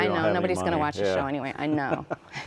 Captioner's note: laughs